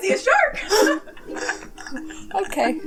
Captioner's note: laugh